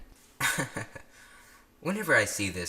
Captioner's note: chuckle